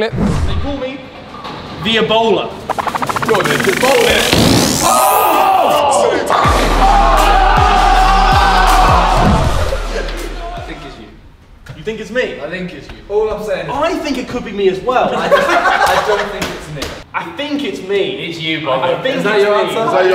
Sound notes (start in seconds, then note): 2.6 upbeat music fades in; 7.4 group cheers; 15.2 Vik laughs